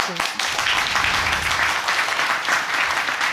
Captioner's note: audience applauding